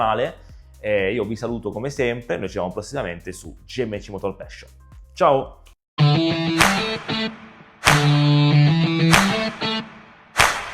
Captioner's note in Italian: Applauso